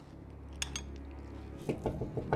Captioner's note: spoon clinks; Ramona knocks